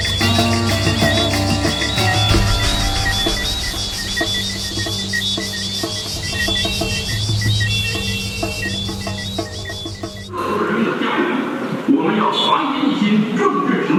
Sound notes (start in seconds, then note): 5.8 horn honking